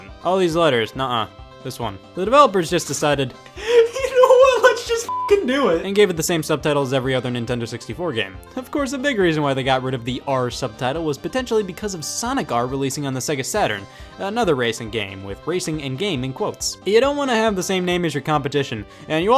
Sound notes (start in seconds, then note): 5.0 beeping